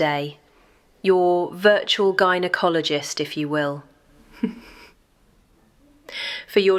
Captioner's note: laughs at her own joke